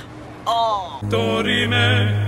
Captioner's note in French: gros vent